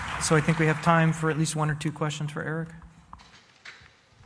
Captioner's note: applause